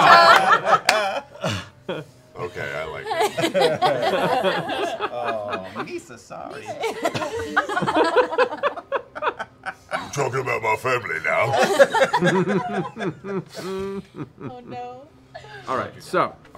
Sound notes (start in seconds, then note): 0.0 laughing; 4.6 laughing; 11.3 laughing